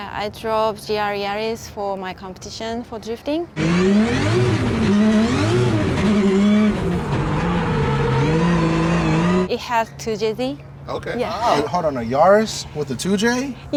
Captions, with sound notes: I drove a GR Yaris for my competition for drifting. [ENGINE REVVING] It has 2JZ. -Okay. -Hold on, a Yaris with a 2J?